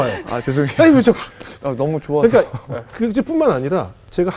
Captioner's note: laughing